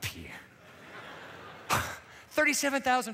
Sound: laughter

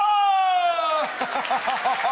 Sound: audience applauds; laughs

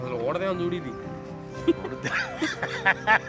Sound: laughs

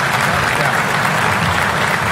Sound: applause

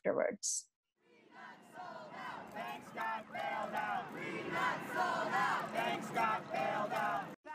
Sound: sounds of protesters chanting 'We got sold out, banks got bailed out'

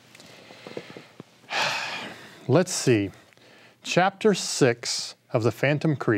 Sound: sighing deeply

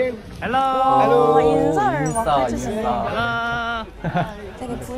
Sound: people warmly greeting

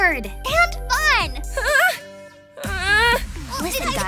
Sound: groaning

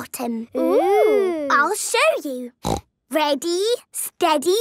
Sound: snorting

